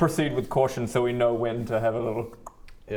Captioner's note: click click